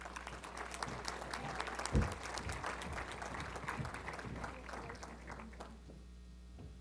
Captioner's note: applause